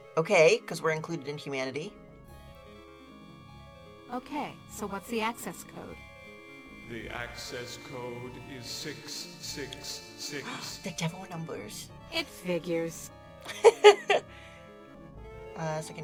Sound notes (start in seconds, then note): 5.4 gasps; 13.4 laughs